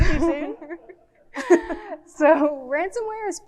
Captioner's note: both speakers laughing